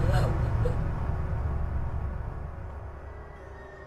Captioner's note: Distressing cries from Sakura